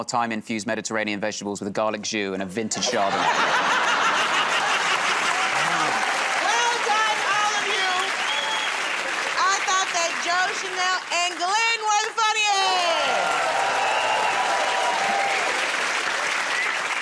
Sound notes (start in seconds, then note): 2.8 laughter; 13.2 cheers and applause